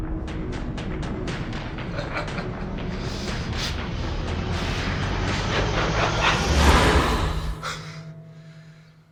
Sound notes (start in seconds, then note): 2.3 cackling